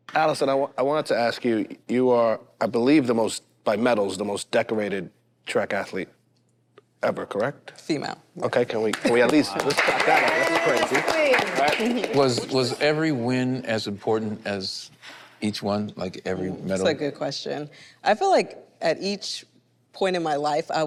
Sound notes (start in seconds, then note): 8.9 group claps